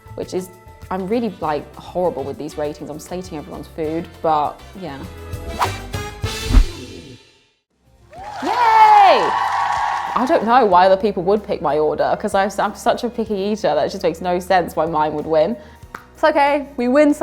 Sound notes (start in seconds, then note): 5.6 upbeat corny music; 6.4 whoosh; 8.1 crowd cheering